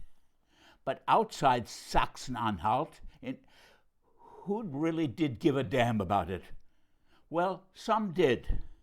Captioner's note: in German